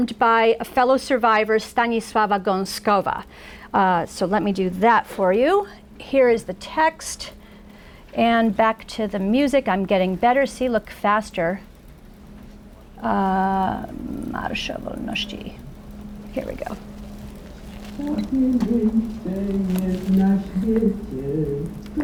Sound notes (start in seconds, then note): 15.2 foreign language; 19.6 folk music